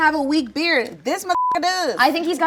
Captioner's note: beep